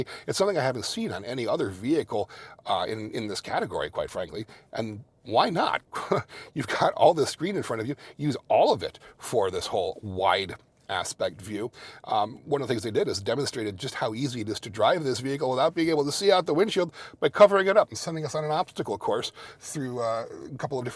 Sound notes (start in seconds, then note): 5.8 chuckles